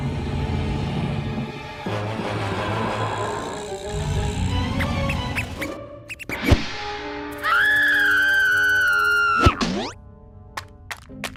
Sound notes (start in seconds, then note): 6.0 mouse squeaks; 7.4 screams